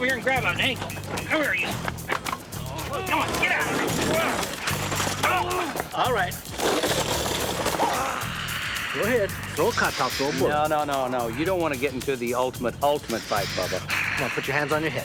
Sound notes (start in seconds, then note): 5.0 grunting